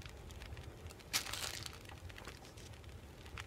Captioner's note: chip Rustling